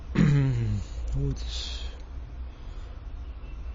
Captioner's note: cleaning throat